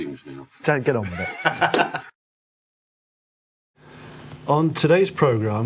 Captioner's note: laughs